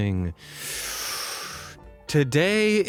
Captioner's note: inhales deeply